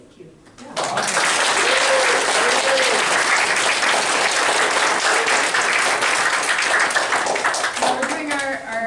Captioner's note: applause